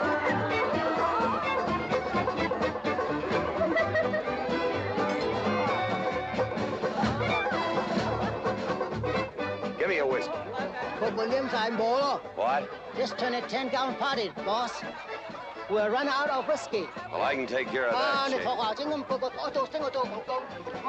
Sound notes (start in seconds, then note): 11.0 speaking cantonese; 18.7 yammering in Cantonese